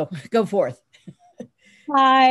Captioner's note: laughs